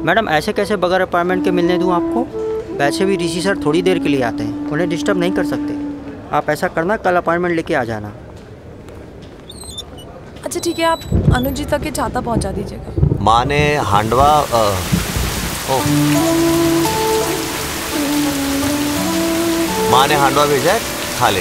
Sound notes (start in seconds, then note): 9.3 Door opens; 16.2 Raining